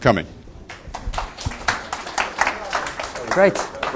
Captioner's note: applause